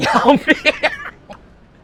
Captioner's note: laughs